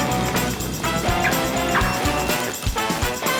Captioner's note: car alarm beeping